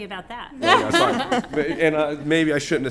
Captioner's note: laughter